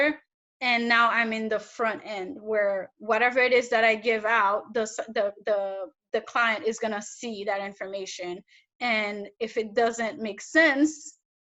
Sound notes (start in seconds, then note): none